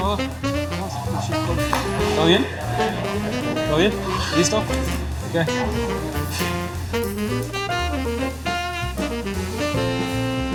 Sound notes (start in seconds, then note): 2.4 speaking Spanish; 6.3 upbeat music